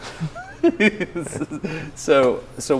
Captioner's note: Destin giggles